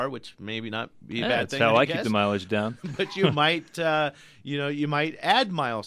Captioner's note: both laugh